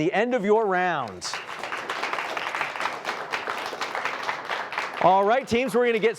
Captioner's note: applause